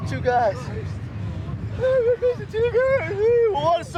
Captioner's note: mocking in high voice